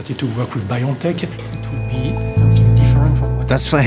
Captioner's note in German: Leises Gespräch, ruhige Musik